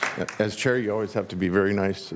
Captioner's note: applause